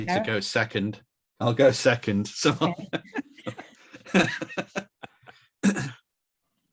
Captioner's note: laughs